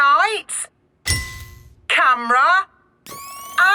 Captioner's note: through megaphone; clicking; whirring